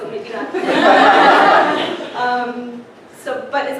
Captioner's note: laughter